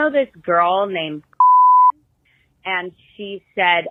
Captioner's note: beep noise